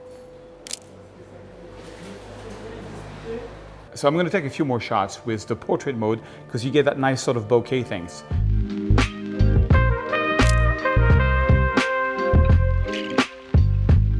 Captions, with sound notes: (camera shutter clicks) So I'm gonna take a few more shots with the portrait mode 'cause you get that nice sort of bokeh things. (upbeat music) (camera shutter clicks)